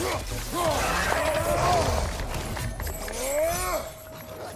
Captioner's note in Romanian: Aplauze